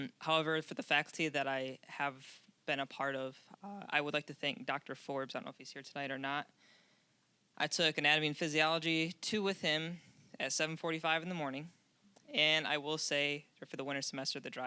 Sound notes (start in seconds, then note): none